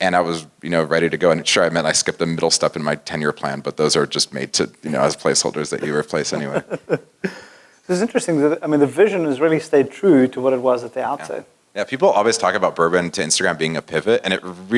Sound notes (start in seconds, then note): 4.8 laugh